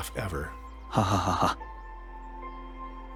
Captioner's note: editor laughs drily